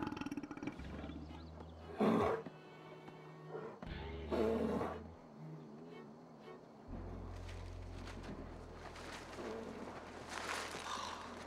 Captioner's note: burps; sighs